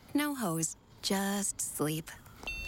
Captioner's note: beeping